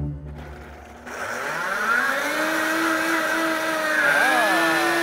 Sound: blender whirring

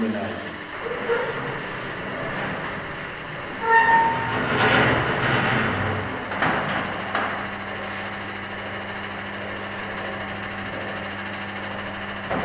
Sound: screeching and pump noises

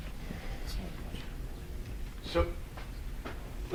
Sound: speaking faintly

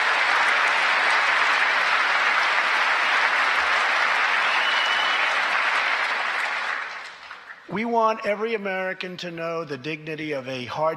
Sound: applause

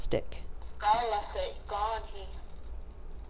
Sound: non-english speech

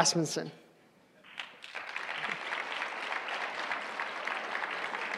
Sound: applause

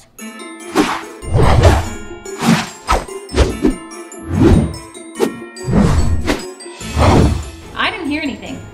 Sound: Christmas bells chiming

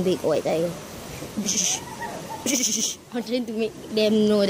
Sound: trying to make tiger sounds

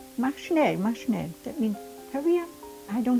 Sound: speaking in foreign language

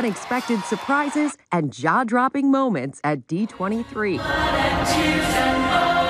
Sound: cheers

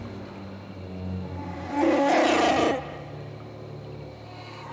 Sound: Tarfful roars

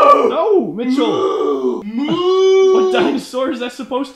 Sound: death metal scream

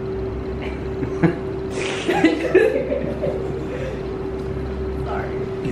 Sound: snickering from the crowd

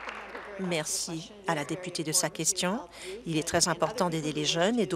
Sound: applause

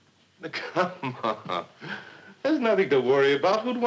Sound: laughing

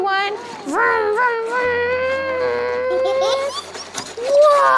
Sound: roaring; children giggling

